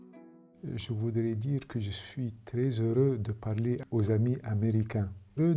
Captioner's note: foreign language